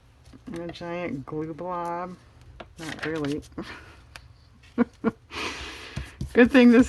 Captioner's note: laughs